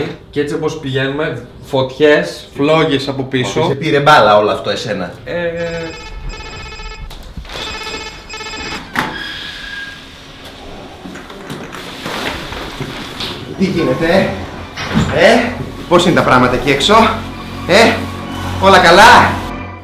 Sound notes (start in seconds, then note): 5.6 doorbell ringing; 10.5 deep breathing